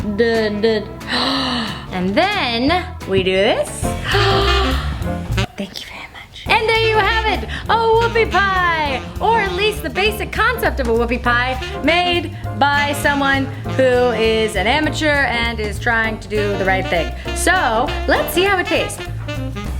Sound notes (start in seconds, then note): 1.2 gasps; 5.3 whispers